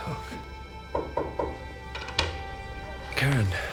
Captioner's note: knocking